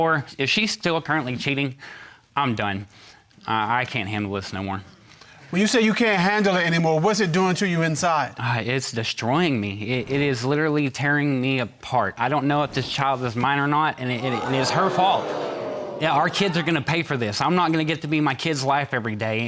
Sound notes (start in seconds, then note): 14.0 audience gasps